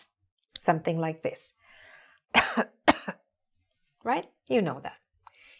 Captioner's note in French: tousse